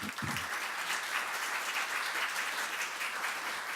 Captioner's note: applause